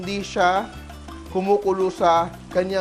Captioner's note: sizzle